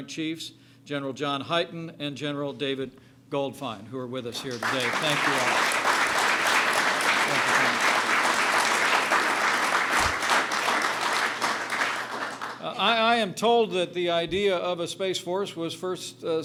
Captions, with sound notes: Chiefs, General John Heighten and General David Goldfein, who are with us here today. (applause) Thank you. I am told that the idea of a Space Force was first